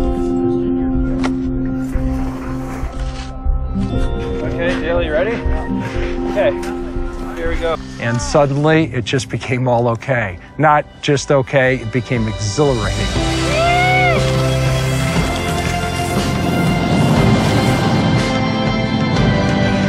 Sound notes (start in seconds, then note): 2.0 dramatic music; 13.4 cheering; 15.9 dramatic music